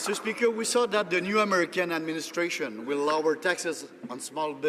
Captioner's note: some Applause